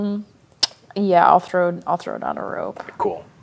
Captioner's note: clicks tongue